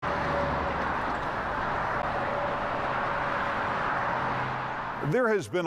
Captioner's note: vehicles passing